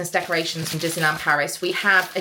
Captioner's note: packing paper rustling